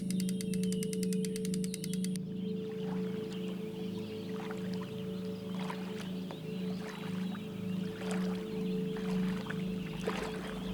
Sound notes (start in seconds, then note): 1.1 water splashing